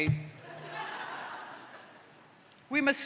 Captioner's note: laughter